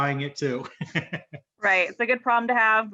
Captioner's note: chuckles